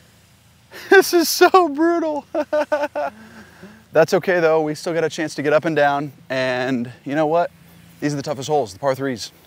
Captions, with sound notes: This is so brutal. [laughs] That's okay though. We still got a chance to get up and down. And you know what? These are the toughest holes, the par threes.